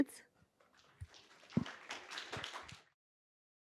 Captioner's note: applause